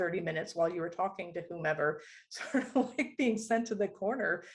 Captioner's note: laughter